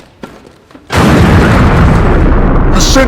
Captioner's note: Death Star explodes